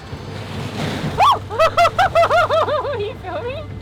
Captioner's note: screams; laughing